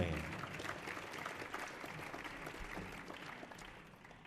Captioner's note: audience applauding